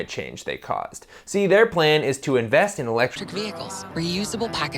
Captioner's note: commercial voiceover